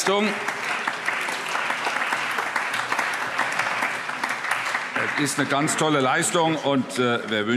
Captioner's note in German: Allgemeiner Beifall